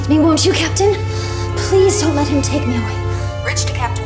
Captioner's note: intercom chimes